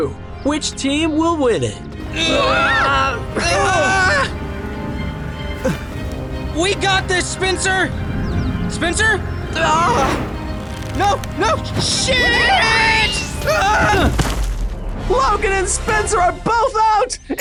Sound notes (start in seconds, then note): 2.0 grunting; 9.5 SPENCER screams